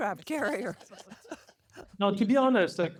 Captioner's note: laughter